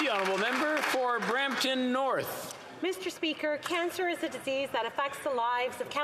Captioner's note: applause